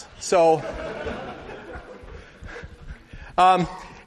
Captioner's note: laughter